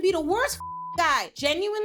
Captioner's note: beep